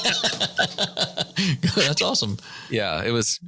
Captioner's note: laughter